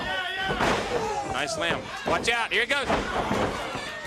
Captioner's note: crowd cheering